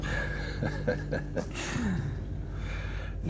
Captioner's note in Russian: смеются